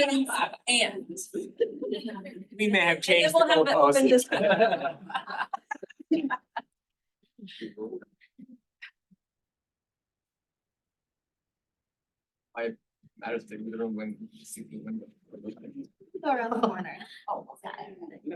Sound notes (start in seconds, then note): 4.2 laughter